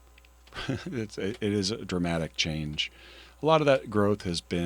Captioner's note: chuckles